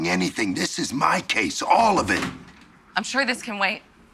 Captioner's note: door opens